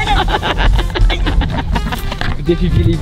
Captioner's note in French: rire